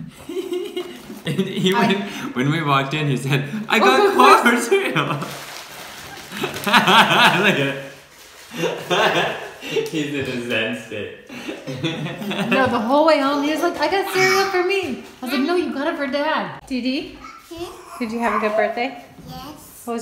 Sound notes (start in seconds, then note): 0.8 laughs; 4.7 laughter; 11.4 laughs